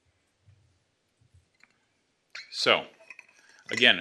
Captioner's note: bottle squeaks